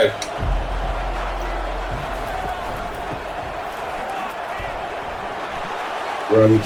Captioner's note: crowd Noises